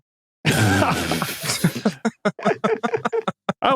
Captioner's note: group laughing; sputters